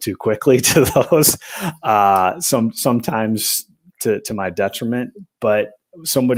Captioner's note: laughter